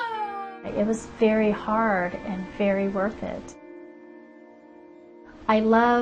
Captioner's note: voiceover